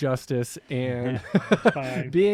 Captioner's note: chuckles